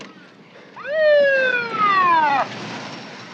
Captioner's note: siren